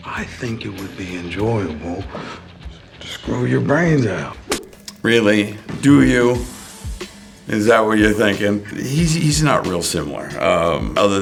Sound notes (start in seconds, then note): 4.5 slap impacts